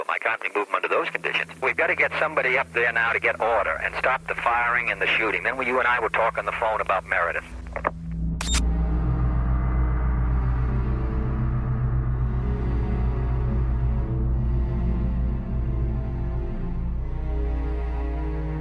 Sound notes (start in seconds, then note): 8.4 receiver clicks; 8.6 somber dramatic music